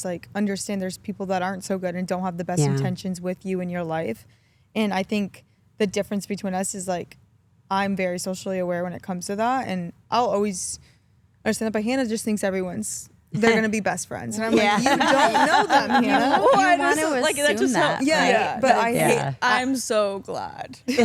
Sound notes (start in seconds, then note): 14.4 Stephanie laughs; 20.8 Stephanie and Elyse laugh